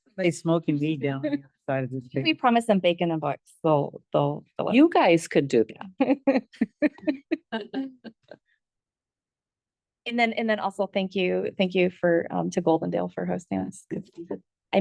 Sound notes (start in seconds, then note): 6.5 board members laugh